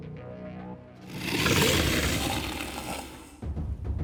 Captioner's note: growling